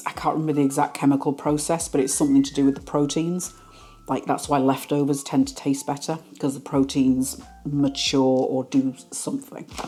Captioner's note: none